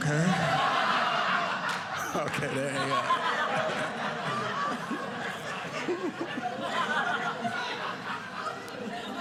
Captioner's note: audience laughing